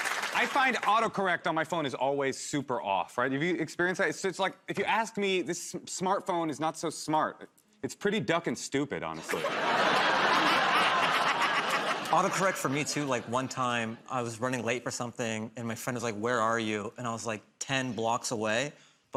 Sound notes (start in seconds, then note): 9.2 laughter